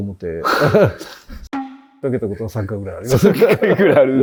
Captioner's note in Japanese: 笑い